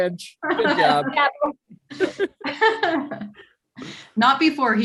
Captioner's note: group laughing